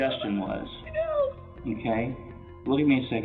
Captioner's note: crying